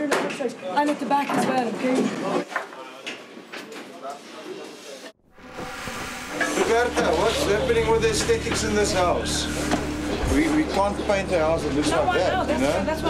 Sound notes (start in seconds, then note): 2.6 cables clattering; 3.5 background mumbling